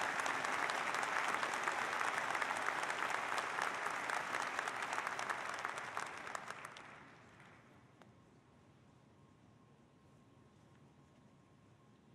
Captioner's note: applause